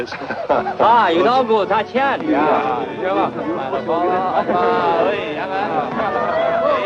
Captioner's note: chuckling; chattering in foreign language